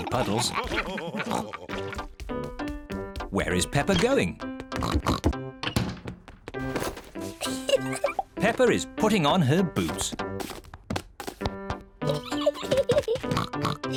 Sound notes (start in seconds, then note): 0.0 all laughing; 4.8 oinks; 7.4 giggles; 12.0 giggles and oinks